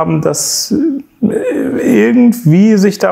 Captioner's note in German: lacht